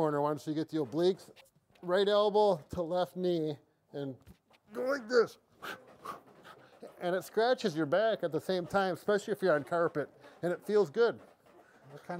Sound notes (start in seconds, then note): 5.5 exaggerated breathing